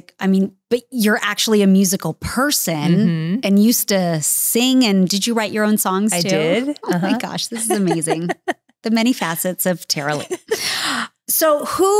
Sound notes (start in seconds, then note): 8.2 laughing